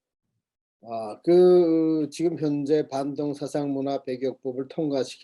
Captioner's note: speaking Korean